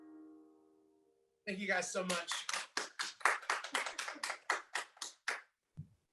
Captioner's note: hands clapping